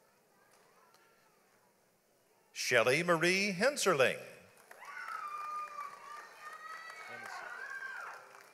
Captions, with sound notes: Shelly Marie Hencerling. (audience applauds)